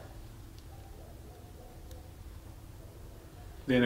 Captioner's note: dogs start barking outside the building